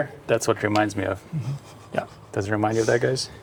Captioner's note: laughing